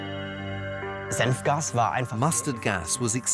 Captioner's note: in German; dubbed in English